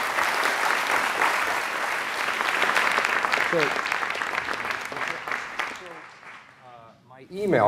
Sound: applause

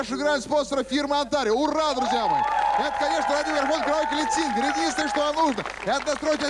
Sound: applause

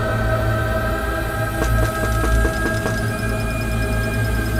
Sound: knocking on the door

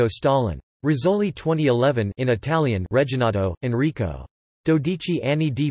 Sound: in Italian

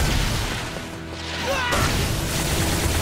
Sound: screaming

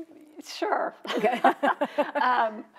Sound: both laughing

